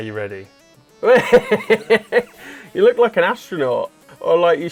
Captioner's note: laughter